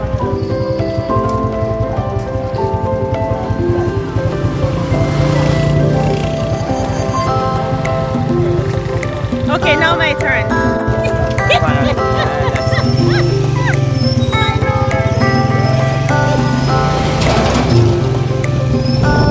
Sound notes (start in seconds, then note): 11.5 laughing